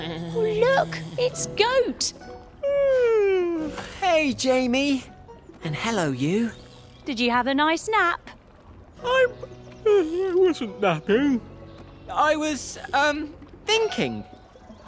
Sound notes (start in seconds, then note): 0.0 snoring sounds; 2.3 goat yawns